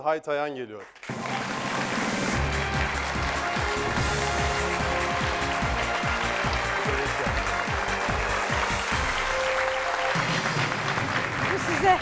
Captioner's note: applause